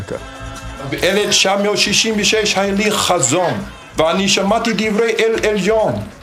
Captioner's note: speaking in foreign language